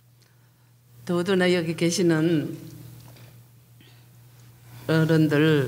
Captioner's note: speaking foreign language